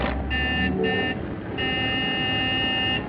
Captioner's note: honking